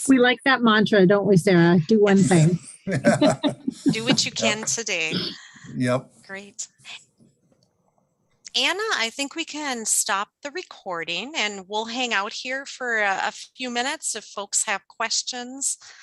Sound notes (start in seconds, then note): 2.8 laughing